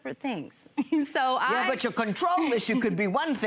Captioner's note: chuckles